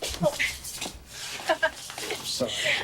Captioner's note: footsteps crunching; Margaret laughing